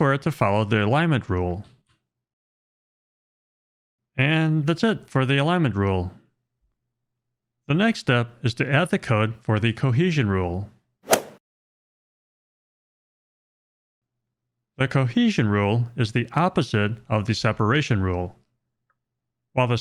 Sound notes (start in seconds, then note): 11.0 golf swing sound effect